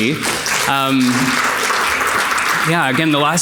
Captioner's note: audience clapping